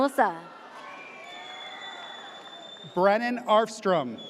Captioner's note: audience cheers